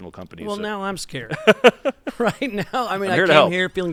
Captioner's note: laughter